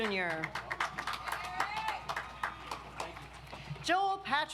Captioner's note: audience applauds